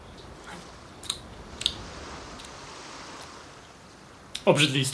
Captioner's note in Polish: mlaskanie